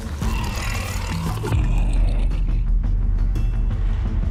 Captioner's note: badger growls